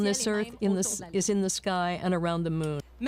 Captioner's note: speaking French